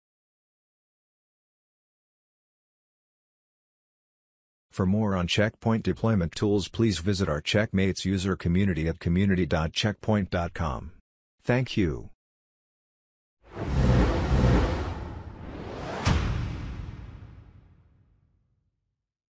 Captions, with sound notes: For more on Check Point deployment tools, please visit our Checkmates user community at community.checkpoint.com Thank you. (swooshing)